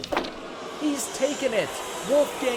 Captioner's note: audience boos